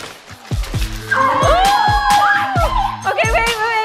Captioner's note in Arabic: هتاف